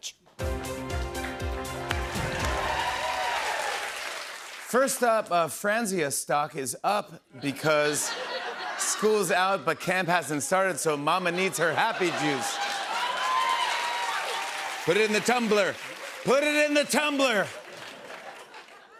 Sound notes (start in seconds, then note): 11.3 laughter, cheers, applause